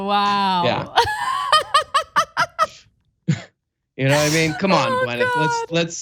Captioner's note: laugh